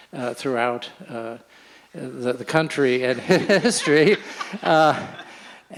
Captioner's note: laughs